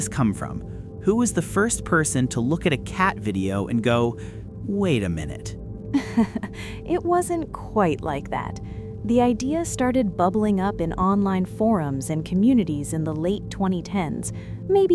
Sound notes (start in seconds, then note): 5.9 laughs lightly